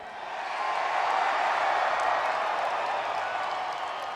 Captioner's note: audience cheering